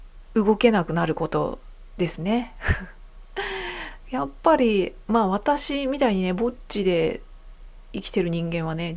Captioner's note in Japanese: 息をのむ音